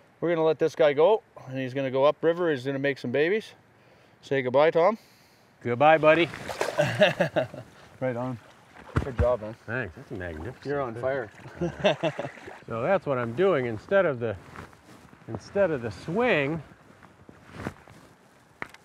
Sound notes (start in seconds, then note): 6.7 laughs; 11.4 laughs